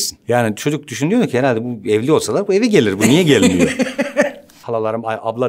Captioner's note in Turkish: Güldü